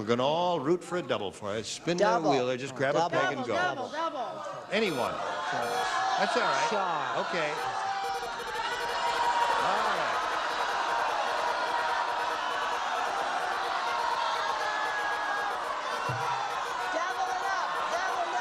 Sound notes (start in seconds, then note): 13.3 beeping; 16.5 cheering